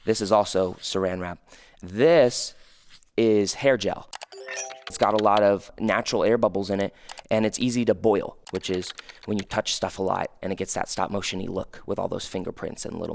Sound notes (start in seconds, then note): 4.1 computer keys clicking; 4.2 chime ringing; 8.4 computer keys clicking